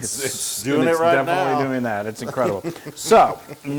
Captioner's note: laugh